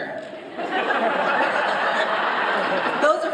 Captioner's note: laughter